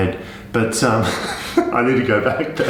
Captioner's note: laughs